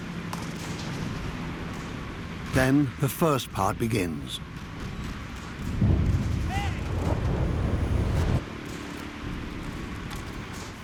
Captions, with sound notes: Then the first part begins. (thunderclap) (soldier shouts)